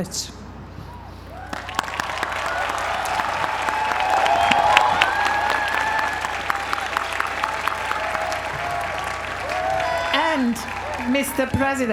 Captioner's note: applause